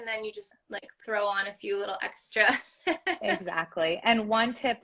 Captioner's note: laugh